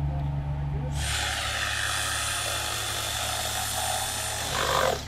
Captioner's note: saw cutting wood